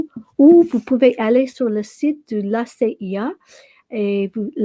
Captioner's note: speaking French